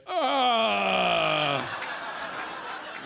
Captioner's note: groans; audience laughs